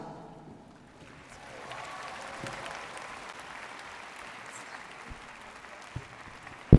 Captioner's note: audience cheering and applauding